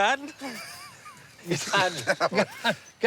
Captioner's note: laughs